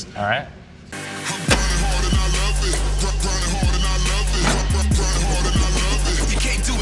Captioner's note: lever clacks; heavy metal music